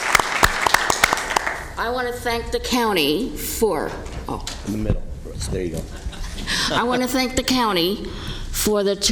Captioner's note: applause